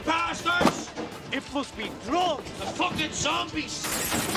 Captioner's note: El vidrio se rompe